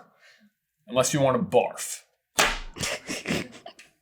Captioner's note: cracking up